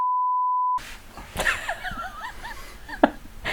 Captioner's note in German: lacht